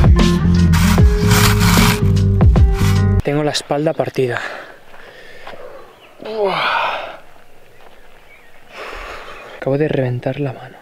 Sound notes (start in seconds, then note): 6.1 fatigue moan